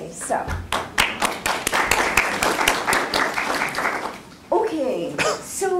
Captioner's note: applause